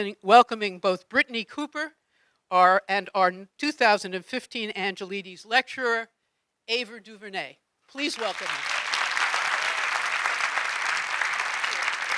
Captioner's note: audience clapping